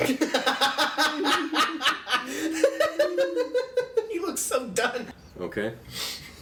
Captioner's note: laughs